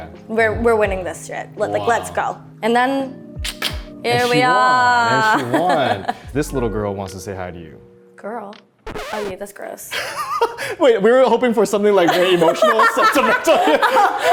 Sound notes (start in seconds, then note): 10.0 laughing; 12.0 both laughing